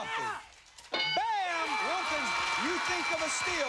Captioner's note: cheers and applause